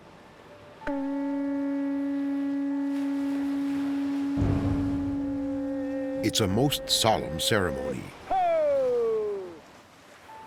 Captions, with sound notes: [shell blowing] It's a most solemn ceremony. Ho!